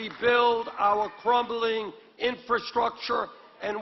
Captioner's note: applause